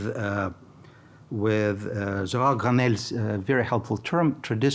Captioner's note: speaking in foreign language